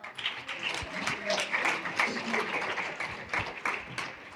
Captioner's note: applause